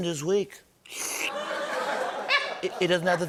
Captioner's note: slurps